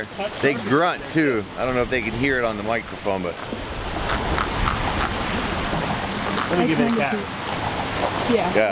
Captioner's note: fish grunting